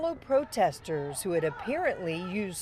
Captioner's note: chanting